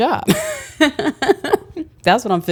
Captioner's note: laughs